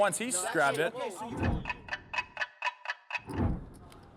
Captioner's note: clock ticking